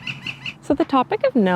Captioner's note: untherapeutic bird noises